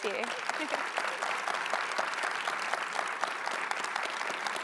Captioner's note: audience applauding